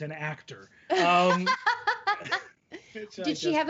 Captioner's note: laughing